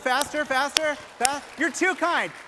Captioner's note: applause